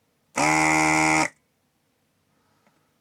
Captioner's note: buzzer